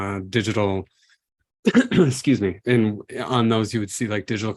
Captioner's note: coughs